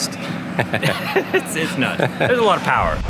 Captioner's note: laughs